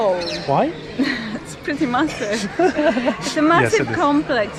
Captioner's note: laughing